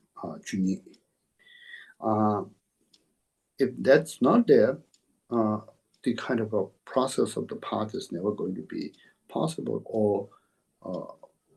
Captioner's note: tibetan